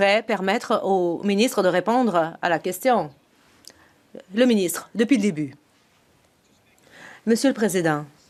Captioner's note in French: voix de l'interprète